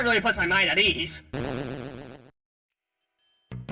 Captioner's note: disapproval of Tenna's flippant attitude sfx